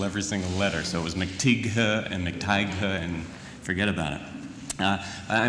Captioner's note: laugh